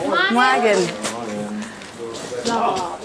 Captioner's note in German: Stimmengewirr